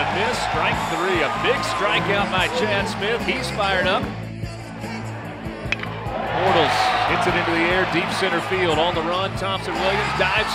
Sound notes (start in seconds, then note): 5.7 clank